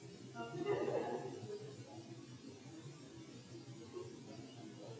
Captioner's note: audience members laughing